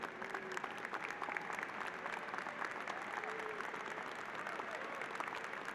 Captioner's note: applause